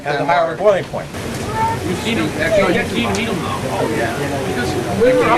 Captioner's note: background chatter